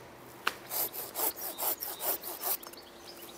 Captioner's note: birds chirping